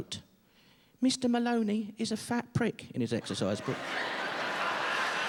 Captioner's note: child-like voice; laughter